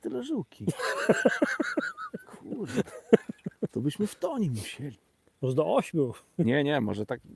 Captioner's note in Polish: śmiech